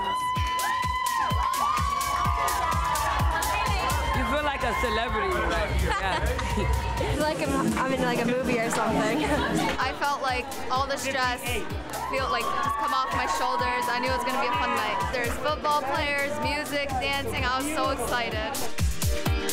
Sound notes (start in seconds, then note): 0.0 teenagers cheering; 0.3 electronic dance music; 8.7 laughing; 19.2 pulsing electronic music